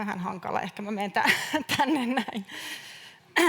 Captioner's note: naurahtaa